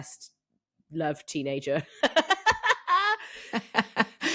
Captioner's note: laughs